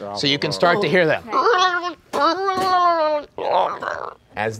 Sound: groaning

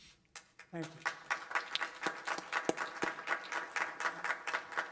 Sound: applause

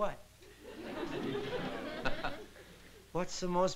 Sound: laughter

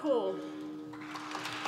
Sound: applause

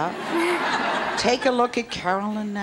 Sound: audience laughs

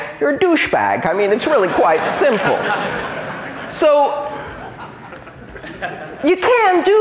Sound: laughter

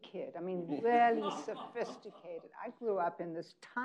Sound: people laughing

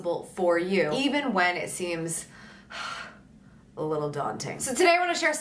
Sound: sighs

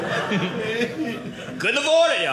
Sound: audience laughing

